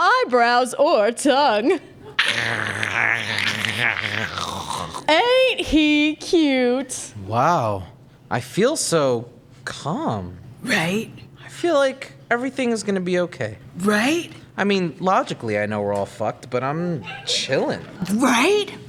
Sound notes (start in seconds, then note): 2.2 gross gurgling